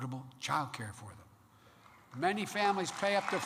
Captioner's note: applause